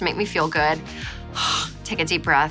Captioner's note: exhaling